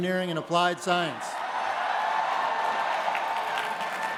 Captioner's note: applause